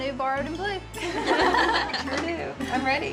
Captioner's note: everyone chuckles